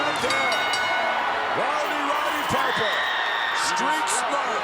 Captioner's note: bell ringing